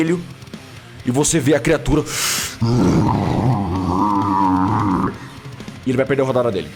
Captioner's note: groaning